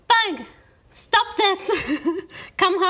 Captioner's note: giggles